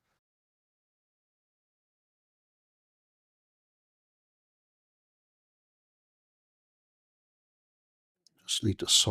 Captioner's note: silence